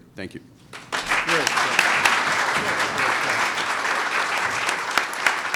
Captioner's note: applause